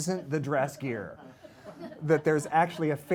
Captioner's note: laughter